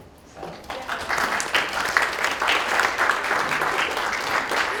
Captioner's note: crowd clapping